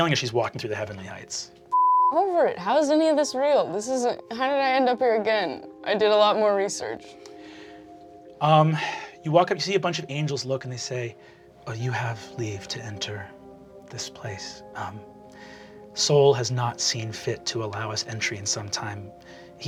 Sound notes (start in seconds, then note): 1.7 beeping